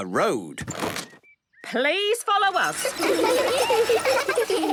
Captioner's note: laughter